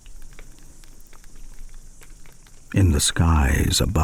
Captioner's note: fire crackling and night insects buzzing